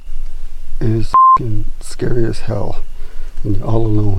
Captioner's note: beep